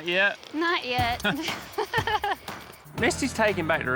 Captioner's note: chuckles